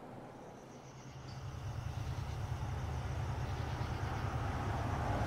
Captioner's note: car engine purrs